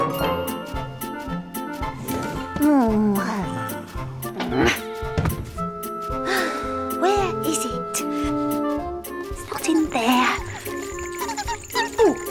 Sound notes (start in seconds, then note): 6.2 sighs